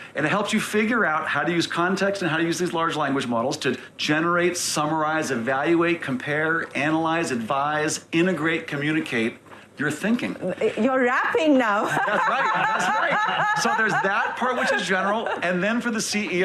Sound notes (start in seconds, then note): 11.8 laughing